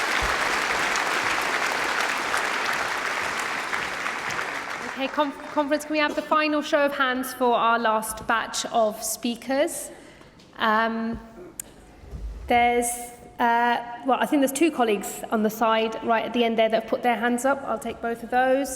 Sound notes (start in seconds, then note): 4.4 applause